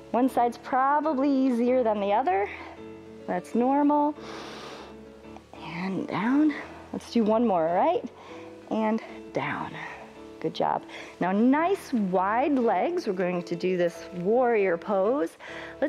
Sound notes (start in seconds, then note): 4.2 inhales